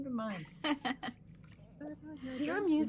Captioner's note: laughing